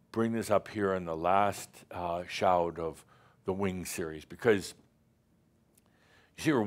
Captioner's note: none